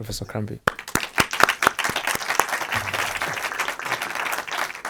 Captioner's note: audience applauding